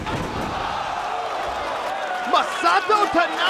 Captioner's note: crowd cheering